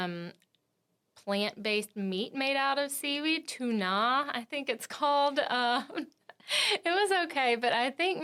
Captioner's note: laughs